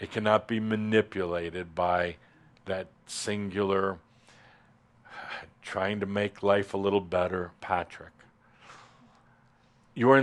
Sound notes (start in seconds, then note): none